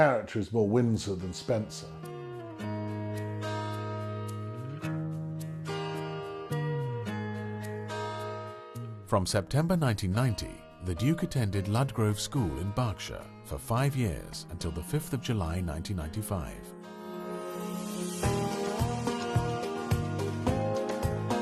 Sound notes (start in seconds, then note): 2.9 upbeat music; 9.0 voiceover; 17.2 upbeat music